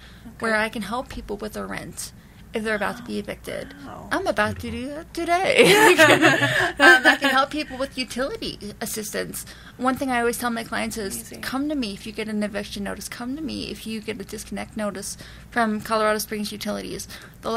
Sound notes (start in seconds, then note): 5.6 laughs